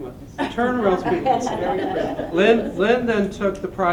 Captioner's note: laughter